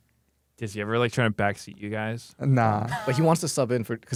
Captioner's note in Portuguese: risos